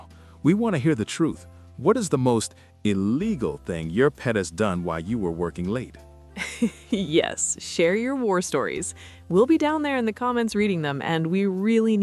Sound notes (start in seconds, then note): 6.6 laughs